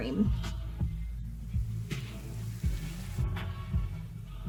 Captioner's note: rain pouring